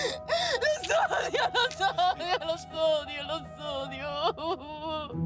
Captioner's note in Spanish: Llanto convulsivo